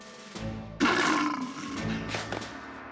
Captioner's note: growls; snorts